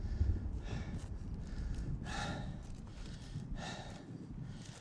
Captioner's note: panting